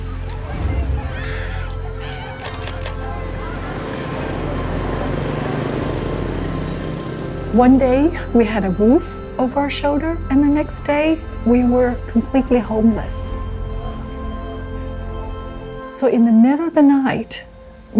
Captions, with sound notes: (people screaming) (motorcycle engine revs) One day we had a roof over our shoulder and the next day we were completely homeless. So in the middle of the night,